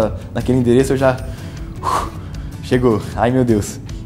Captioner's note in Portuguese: suspiro